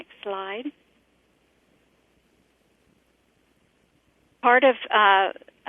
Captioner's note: pause